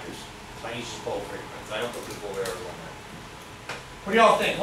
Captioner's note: speaks softly